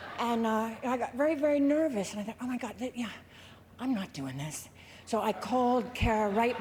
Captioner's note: laughter